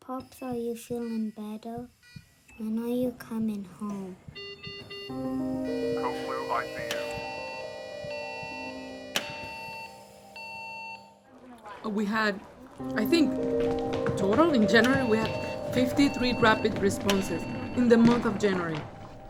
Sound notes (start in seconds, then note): 4.2 equipment beeping; 7.4 alarm sounds